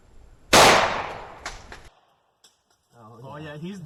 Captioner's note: gunshot firing